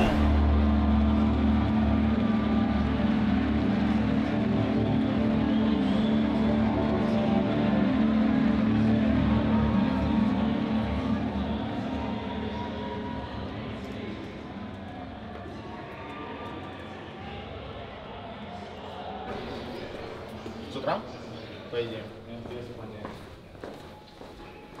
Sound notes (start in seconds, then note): 0.2 tense music; 16.9 people chattering; 20.8 players speaking in Russian